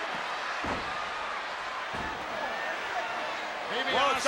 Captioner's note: crowd clamors